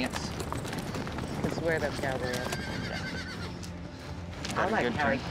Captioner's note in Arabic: صهيل الحصان